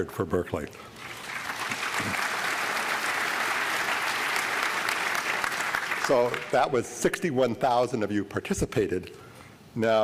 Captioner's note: applause